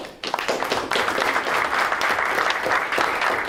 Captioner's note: applause